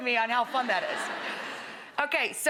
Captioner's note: crowd laughing